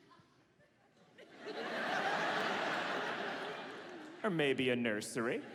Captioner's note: audience laughs